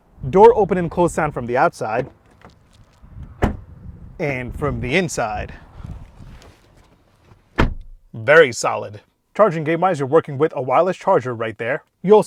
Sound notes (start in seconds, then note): 3.3 door closing solidly; 7.5 door closing solidly